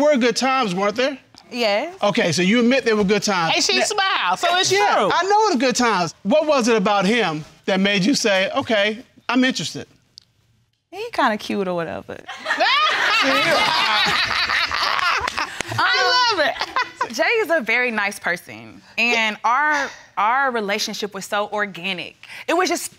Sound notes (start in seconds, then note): 12.4 all laugh